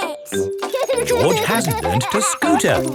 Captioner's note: george laughing